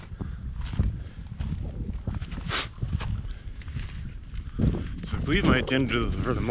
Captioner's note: footsteps thumping; sniffing